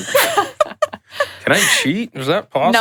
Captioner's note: laughs